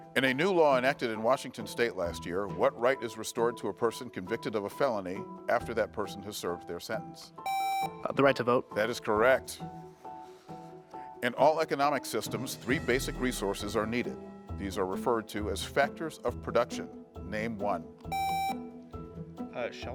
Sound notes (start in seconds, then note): 7.4 buzzer beeps; 18.1 buzzer beeps